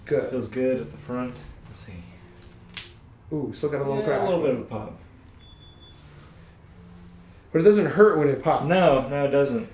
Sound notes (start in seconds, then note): 2.4 popping; 5.4 phone beeping